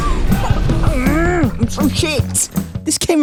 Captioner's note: anger